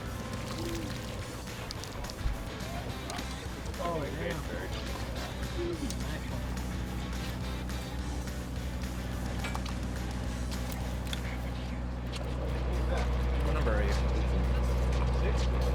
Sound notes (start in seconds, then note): 1.3 water splashing; 3.6 crew chatting; 11.4 whisper